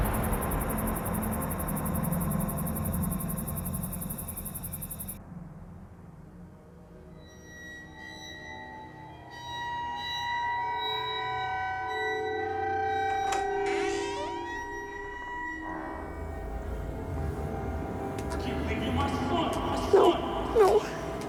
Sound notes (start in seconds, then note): 13.3 door creaking; 19.1 faint shouting